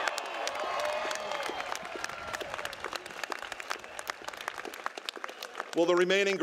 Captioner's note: applause